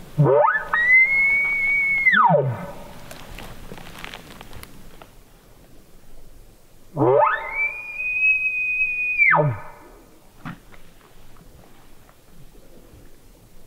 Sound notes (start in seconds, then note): 0.1 caller bugling; 7.0 caller bugling